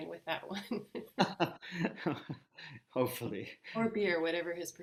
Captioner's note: laughs